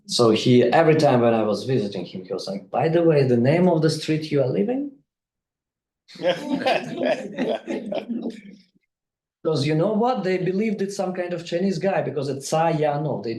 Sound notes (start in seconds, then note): 6.1 group laughing